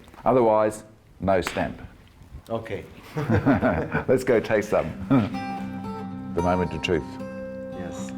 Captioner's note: laughter